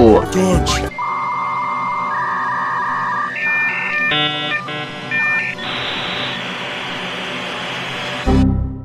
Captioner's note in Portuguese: Sons de chamada telefônica decomposta; Toque